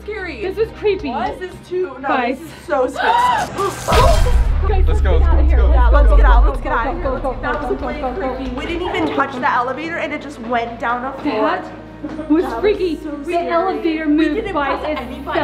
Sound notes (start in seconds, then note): 3.4 gasps